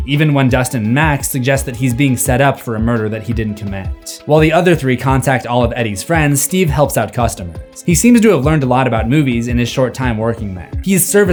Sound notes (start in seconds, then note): none